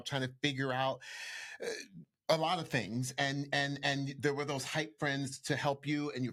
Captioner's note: none